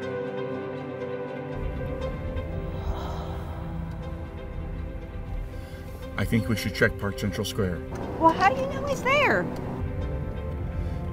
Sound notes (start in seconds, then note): 0.2 light music building; 2.5 woman's breath